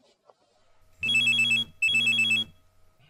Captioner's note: phone alarm ringing and vibrating loudly